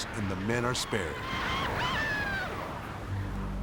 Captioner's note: men shouting; suspenseful music